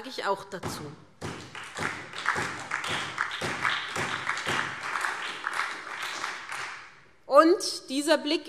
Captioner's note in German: Beifall SPD und Freie Demokraten